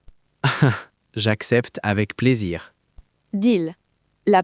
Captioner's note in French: rire